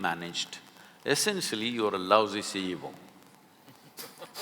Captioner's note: both laugh